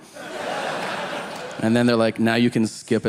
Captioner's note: audience laughing